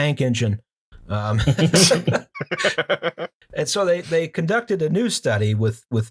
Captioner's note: laughter